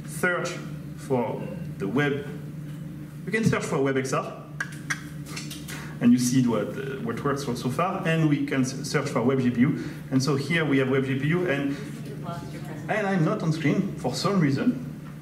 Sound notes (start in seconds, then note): 4.6 tongue clicks